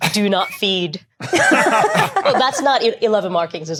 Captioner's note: group laughing